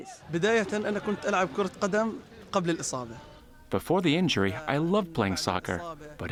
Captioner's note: through translator